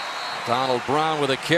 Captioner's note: whistle